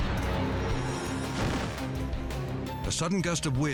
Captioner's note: parachute pops